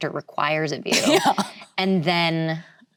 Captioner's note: laughs